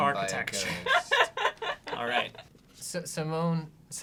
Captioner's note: laughs